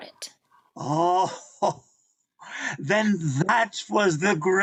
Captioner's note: laughing